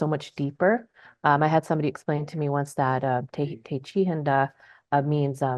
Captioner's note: speaks in Dakota